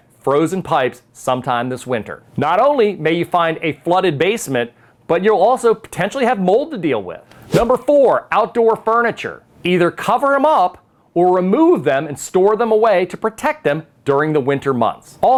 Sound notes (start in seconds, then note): 7.3 text whooshes